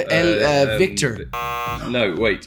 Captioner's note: buzzer